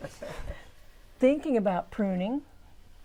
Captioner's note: laughing